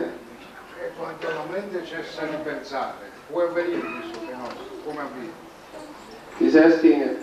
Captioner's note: italian